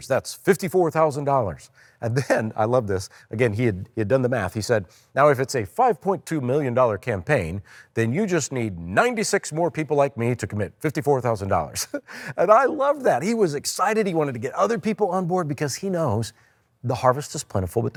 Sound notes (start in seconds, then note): 11.7 chuckles